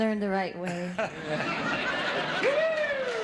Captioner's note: audience laughing